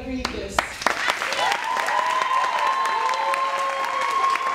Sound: cheering and applauding

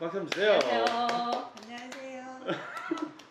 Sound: clap clap clap

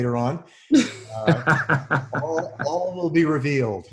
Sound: laughs

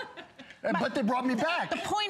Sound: laughter

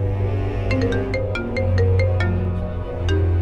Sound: phone ringing

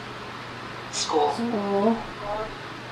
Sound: voiceover

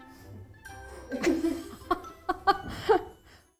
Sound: group laughing

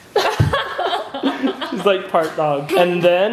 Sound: laughs

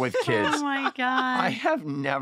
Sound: laughter

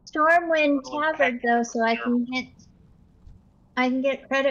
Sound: none

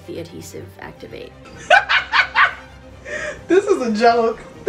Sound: laughs loudly

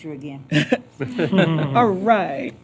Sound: laughter

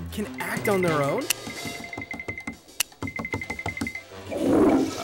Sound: footsteps; toilet flushing

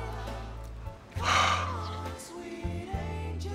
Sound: sighs

